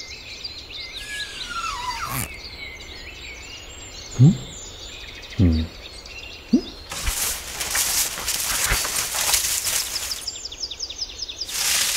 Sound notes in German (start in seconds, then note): 5.4 Nachdenkliche Laute